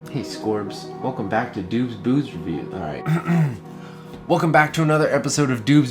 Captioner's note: clears throat